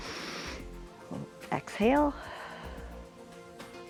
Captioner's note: inhales; exhales